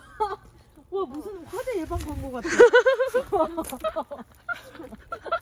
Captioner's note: laughing